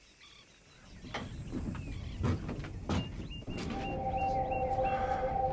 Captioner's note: birds chirping